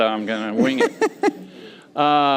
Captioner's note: laughter